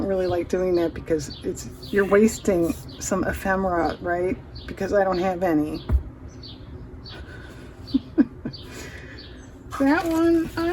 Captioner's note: laughs